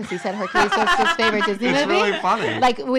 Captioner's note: laughing